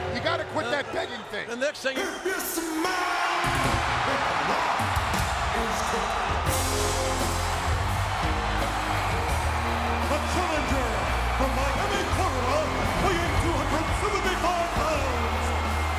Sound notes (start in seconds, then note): 6.6 crowd cheering; 6.6 upbeat music